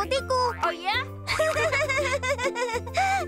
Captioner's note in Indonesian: terkekeh